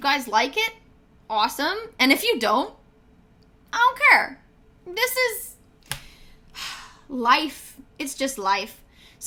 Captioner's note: sigh